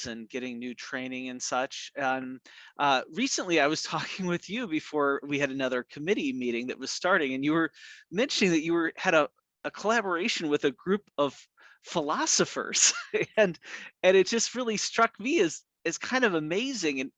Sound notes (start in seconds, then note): 12.8 chuckles